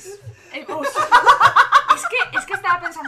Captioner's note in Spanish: risas